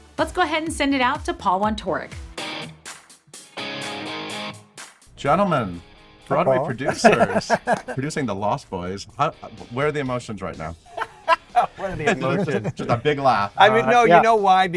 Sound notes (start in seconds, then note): 2.9 rock music; 6.7 laughter; 10.9 cackling